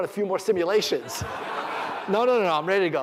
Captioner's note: laughter